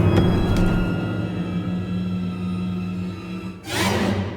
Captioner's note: body thuds